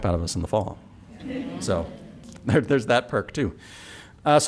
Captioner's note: laughter